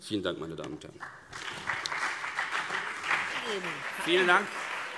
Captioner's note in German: Beifall BÜNDNIS 90/DIE GRÜNEN und vereinzelt CDU